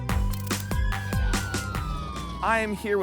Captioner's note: ambulance wailing